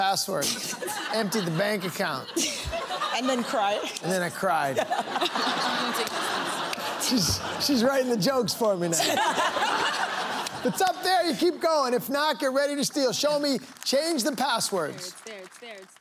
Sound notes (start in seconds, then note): 8.8 laughter